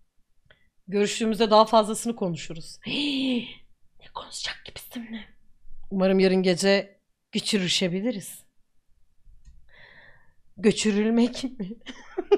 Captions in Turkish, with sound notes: Hiiihh! Ne konuşcak ki bizimle?? (fısıldıyor) Gçrülmek mi?